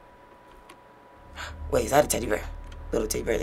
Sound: gasps

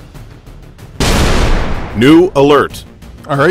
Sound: explosion

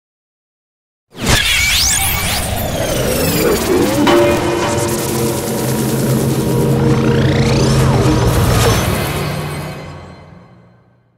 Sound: sound of science fiction

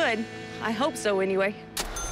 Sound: cash register chime

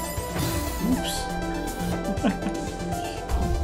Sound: chuckles

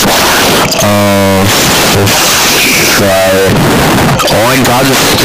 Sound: inside tornado audio

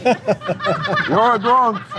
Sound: laughing

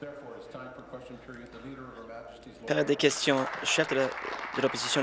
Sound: applause

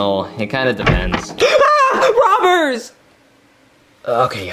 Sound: screams

